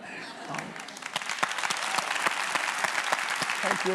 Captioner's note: audience applauds